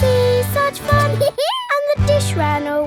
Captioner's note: dog laughs